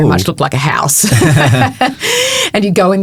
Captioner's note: both chuckling